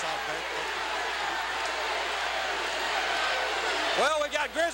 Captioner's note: crowd cheering